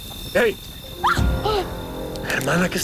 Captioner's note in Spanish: Grito